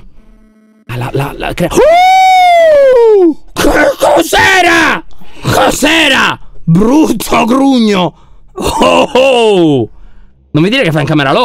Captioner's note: screams scared; nervous laughter